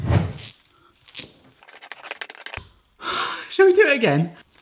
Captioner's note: plastic rustling